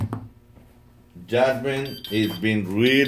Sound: machine beeps

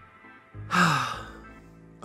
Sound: sighs

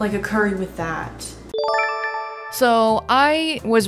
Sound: chime

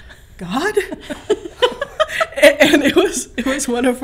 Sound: laughing

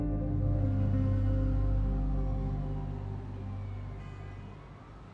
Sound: siren wails

